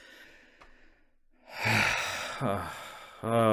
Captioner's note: long sigh